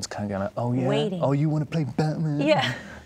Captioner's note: laughing